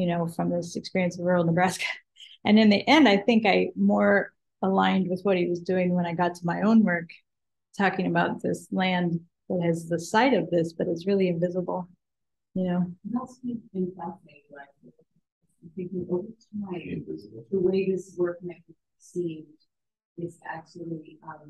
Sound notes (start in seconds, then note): 13.4 woman mumbling